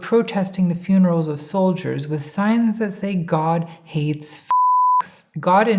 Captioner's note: beep